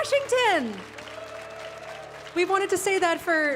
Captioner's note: audience cheering